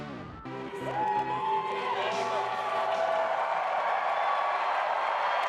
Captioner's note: audience cheering